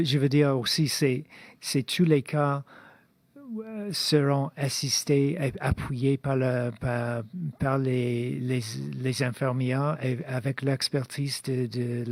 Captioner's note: speaking in French